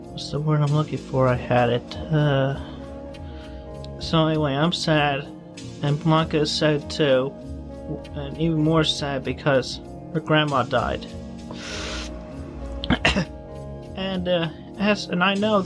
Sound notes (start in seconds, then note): 12.8 cough